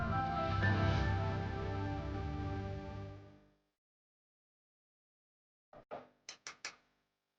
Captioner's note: silence